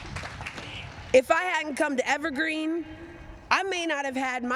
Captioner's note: applause